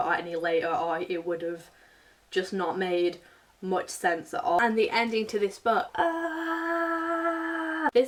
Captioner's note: screams